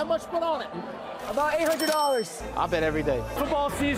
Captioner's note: registry chiming